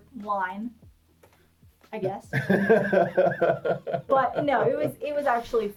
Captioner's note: laughs